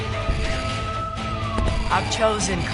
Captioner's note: sirens wailing, suspenseful music